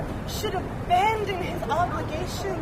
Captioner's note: none